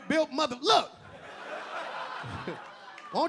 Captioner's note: audience laughing; LilRel chuckling